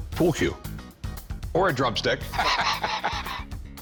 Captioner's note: laughs